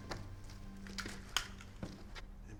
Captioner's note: click